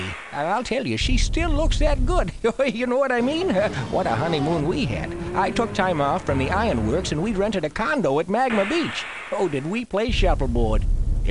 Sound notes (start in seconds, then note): 3.2 chuckling